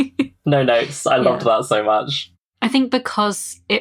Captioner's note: laughs